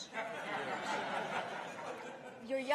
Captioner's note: laughter